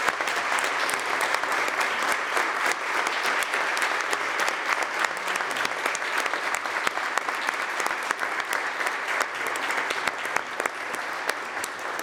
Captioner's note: applause